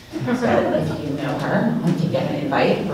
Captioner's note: audience laughing